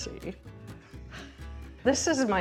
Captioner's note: chuckling